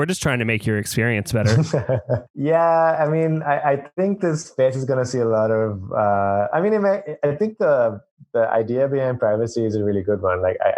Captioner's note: laughs